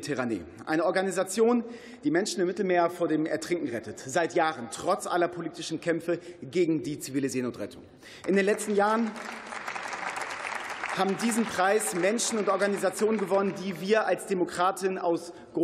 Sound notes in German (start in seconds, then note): 8.2 Beifall